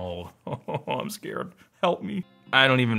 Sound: chuckles

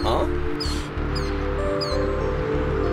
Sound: Ned sighs

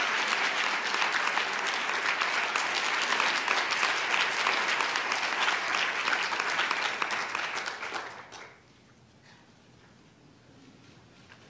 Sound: applause

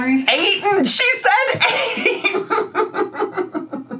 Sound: laughs

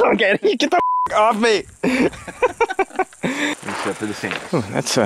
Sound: beep; laughs

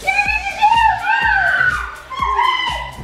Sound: yelling

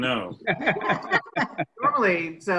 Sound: laughs

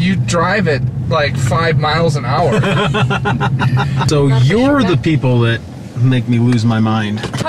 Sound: laughter

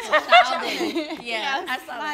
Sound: all laughing

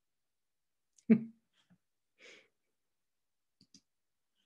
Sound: chuckles

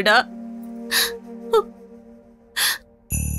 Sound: crying

